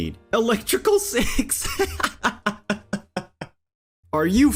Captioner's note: hysterical laughing